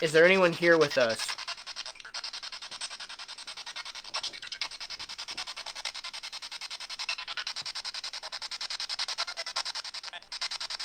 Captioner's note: scanning